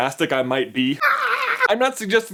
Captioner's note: fake scream